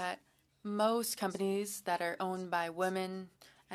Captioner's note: speaking French